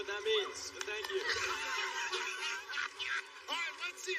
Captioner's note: laughter